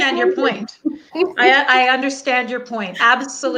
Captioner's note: laughing